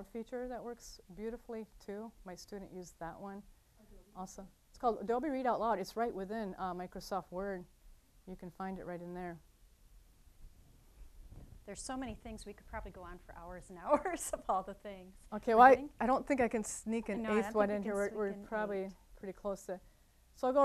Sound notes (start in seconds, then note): 14.0 laughing